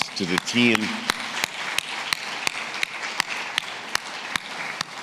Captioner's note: audience clapping